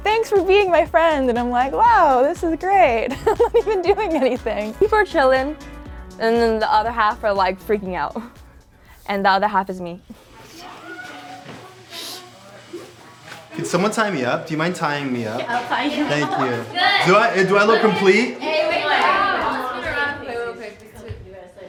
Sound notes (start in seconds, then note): 3.0 chuckles